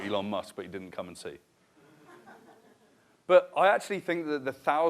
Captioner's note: laughter